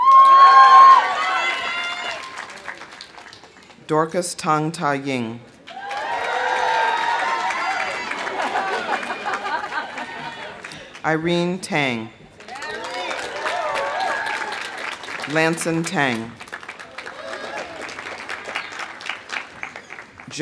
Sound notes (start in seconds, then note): 0.0 audience cheering; 0.0 audience applauding; 5.6 audience cheering; 5.6 audience applauding; 7.9 people laughing; 12.4 audience cheering; 13.8 audience applauding; 16.6 audience cheering; 16.8 audience applauding